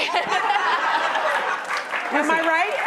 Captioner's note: laughter